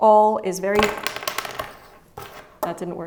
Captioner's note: spools clatter